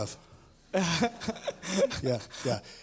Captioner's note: laughter